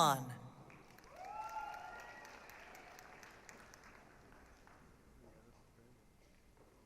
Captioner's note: applause, cheering